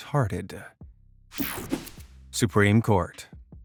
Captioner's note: image whipping effect